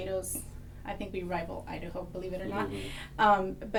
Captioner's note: laugh